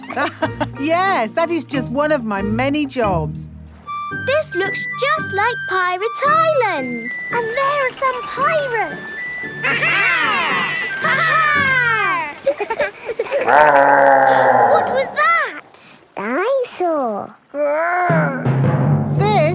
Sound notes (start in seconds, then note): 0.0 laughs; 13.0 laughing; 14.0 growling; 14.8 gasps